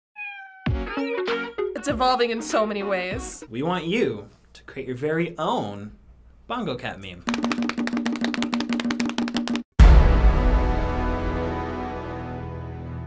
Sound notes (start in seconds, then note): 0.1 Bongo Cat meows; 7.2 bongo drumming; 9.8 dramatic chord